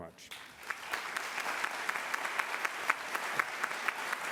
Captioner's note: applause